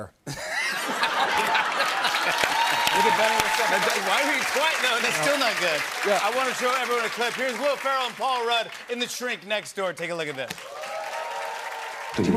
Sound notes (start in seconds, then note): 0.2 laughter; 1.0 cheers and applause